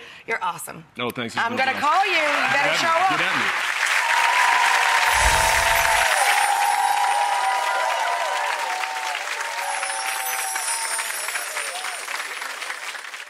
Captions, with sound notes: You're awesome. Oh, thanks, it's been my pleasure. I'm gonna call you. Get at me. You better show up. Get at me. (cheering) (wind chimes)